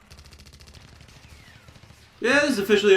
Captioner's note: guns fire